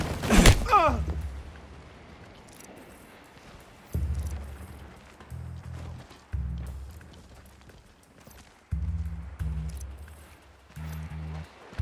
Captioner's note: groaning